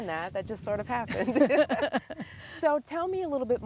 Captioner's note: laughing loudly